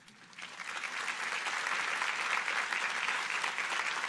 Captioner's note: audience applauding